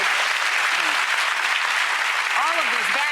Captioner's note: audience applauds